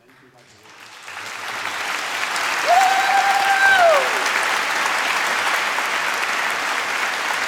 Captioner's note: applause